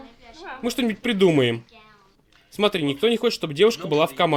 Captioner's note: none